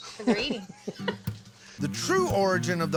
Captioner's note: laughter